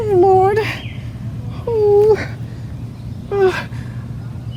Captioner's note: whimpering